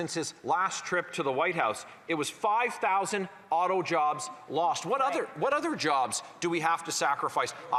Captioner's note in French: voix de l'interprète